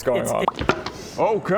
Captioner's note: pop!